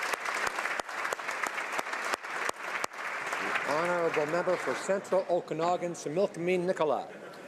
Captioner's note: applause